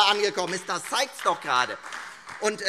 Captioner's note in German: Beifall Freie Demokraten und AfD